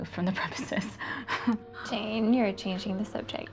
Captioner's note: Jane laughing